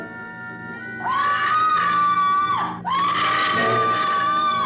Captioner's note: screaming